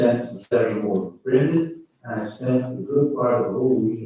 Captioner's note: faintly speaking